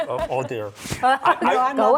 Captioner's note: laughter